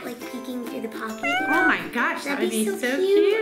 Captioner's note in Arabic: القط purr